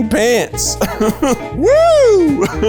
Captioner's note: laughing